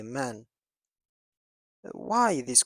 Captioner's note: pause